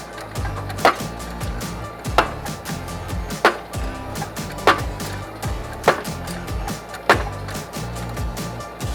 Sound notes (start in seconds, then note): 3.4 machine pounding